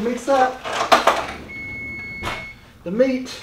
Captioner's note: timer beeping